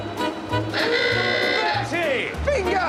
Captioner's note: hoots horn